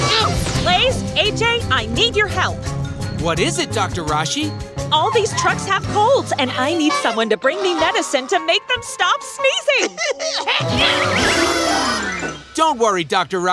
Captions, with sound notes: Blaze, AJ, I need your help. What is it, Dr. Rashi? All these trucks have colds and I need someone to bring me medicine to make them stop sneezing. [coughing, sneezing] Don't worry, Dr. Rashi.